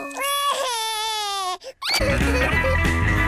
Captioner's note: cries